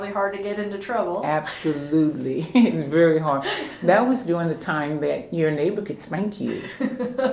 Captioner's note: laughter